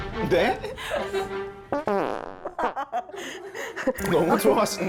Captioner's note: fart sound